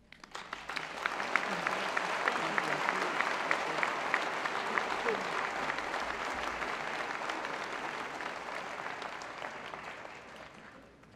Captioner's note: applause